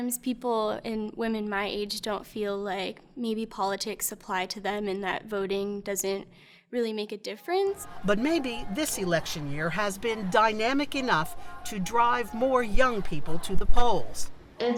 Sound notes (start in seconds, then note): 7.7 crowd chanting